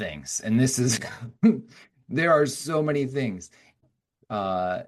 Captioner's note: chuckling